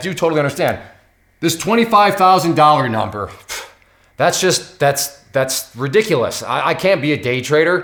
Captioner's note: scoffs